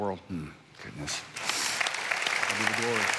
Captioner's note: congregation applauding